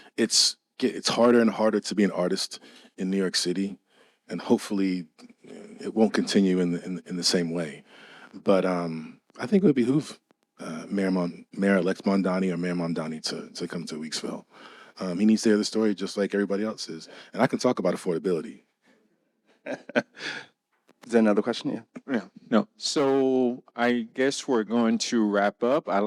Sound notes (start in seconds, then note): 19.6 laughing